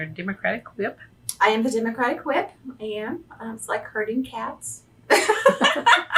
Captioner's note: laughs